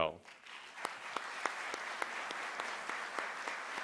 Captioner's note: applause